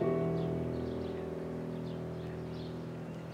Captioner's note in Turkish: Kuş cıvıltısı sesi